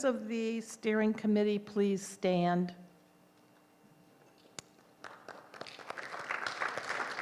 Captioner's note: applause